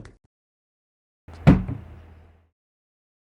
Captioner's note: mug thumps